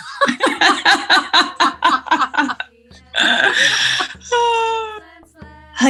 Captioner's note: laughing